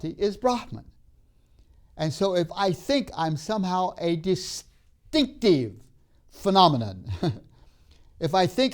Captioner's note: laughs